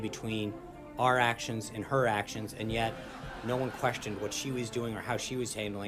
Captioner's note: laugh track